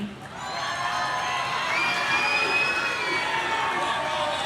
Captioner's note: audience cheering